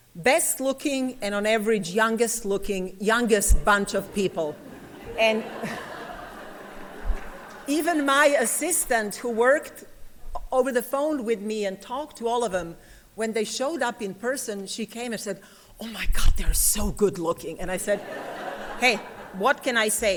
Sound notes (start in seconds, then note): 4.0 laughter